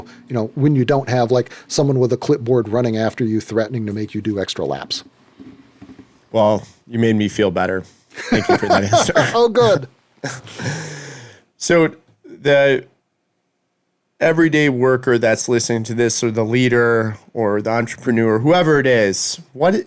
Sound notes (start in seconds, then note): 8.2 laughing